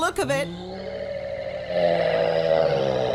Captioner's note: roar